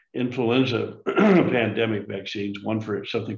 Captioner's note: clears throat